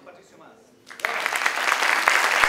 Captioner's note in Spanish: aplausos